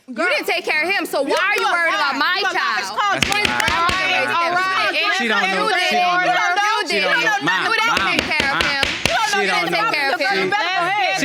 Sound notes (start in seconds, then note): 2.9 all arguing; 5.4 arguing; 7.9 banging gavel